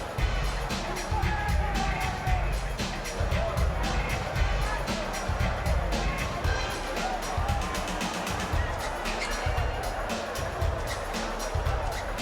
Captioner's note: crowd chatter